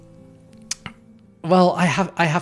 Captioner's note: lips smacking